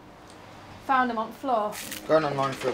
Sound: nugget squishing

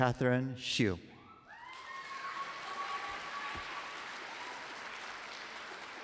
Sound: applause

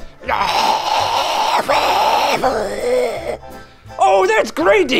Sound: screaming noises and gargles

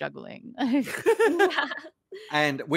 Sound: all laugh

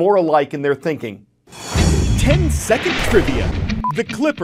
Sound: voice-over

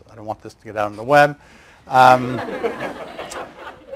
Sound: laughter

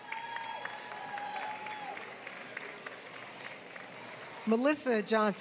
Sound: applause

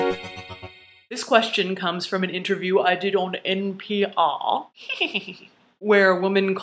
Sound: evil laugh

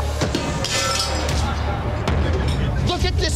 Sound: metal clatters

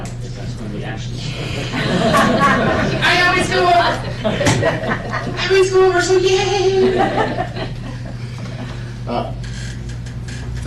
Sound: laughter

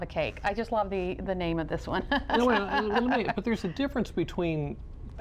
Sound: laughter

